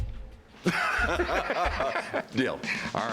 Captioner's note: laughter